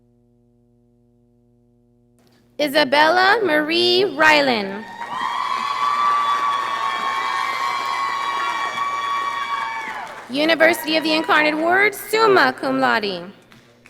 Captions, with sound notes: Iza'Bella Marie Ryland. (audience applauding) University of the Incarnate Word, summa cum laude.